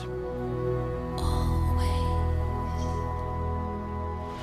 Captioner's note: whisper